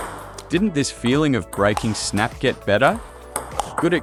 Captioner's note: snap